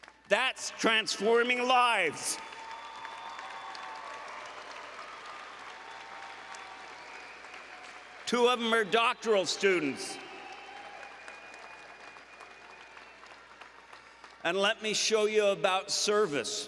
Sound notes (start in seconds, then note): 2.8 applause and Cheering